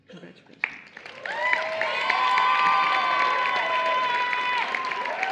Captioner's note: cheering and Applause